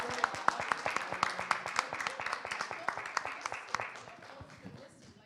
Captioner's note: applause